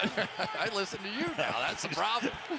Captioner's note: laughs